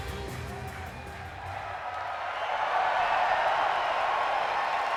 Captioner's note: audience cheering and clapping